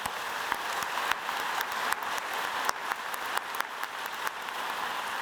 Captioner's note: applause